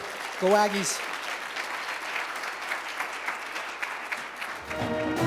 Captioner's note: applause